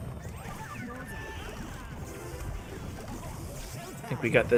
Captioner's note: game sounds